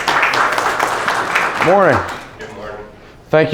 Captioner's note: applause